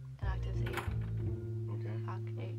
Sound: door opens

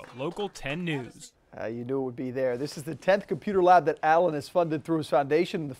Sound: applause

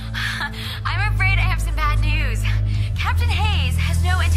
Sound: chuckles

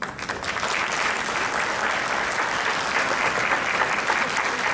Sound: crowd clapping

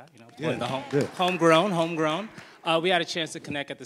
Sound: audience applauds

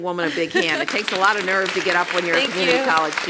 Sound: applause; laugh

